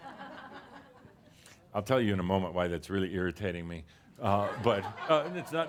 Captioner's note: a few chuckles; more chuckles